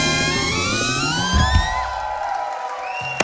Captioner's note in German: Jubel, Applaus